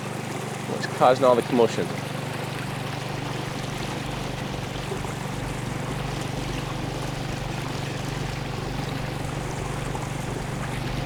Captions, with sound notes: What's causing all the commotion? (boat motor humming) (water sloshing)